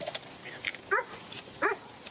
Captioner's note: dog barks